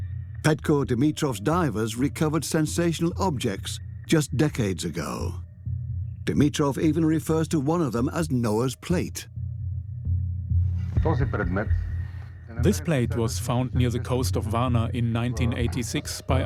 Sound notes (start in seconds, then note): 11.0 in Bulgarian; 12.5 dubbed in English